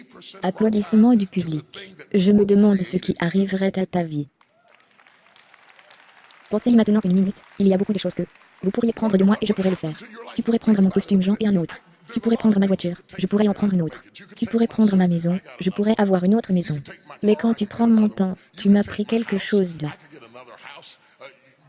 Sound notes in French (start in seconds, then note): 4.4 applaudissements du public